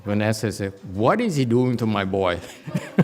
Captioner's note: laughs